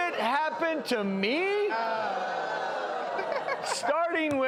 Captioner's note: audience reacting negatively